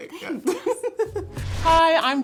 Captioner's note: laughing